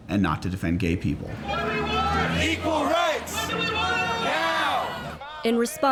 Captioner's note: protesters chant